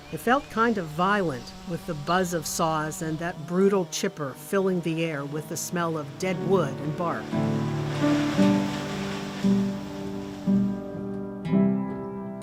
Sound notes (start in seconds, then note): 7.6 chipper grinding; 7.6 sad piano music